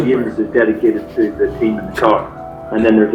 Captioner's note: laughing